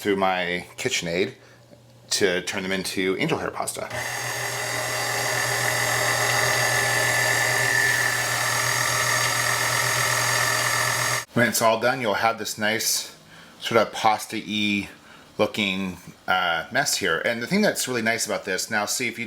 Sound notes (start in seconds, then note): 3.8 whirring